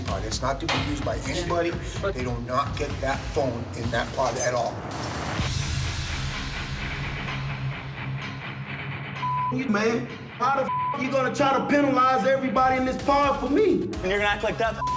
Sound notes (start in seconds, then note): 3.5 metal music; 9.2 beep; 13.2 beep